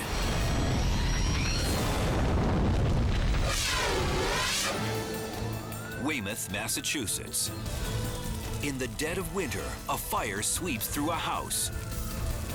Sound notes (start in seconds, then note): 0.0 fire roaring; 3.3 scene swooshing